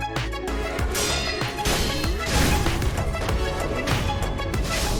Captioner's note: sword clanging